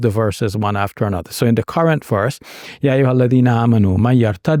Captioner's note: speaking Arabic